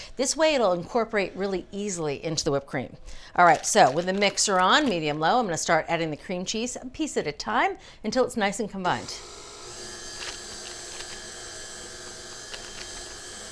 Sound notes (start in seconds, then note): 8.9 machine whirring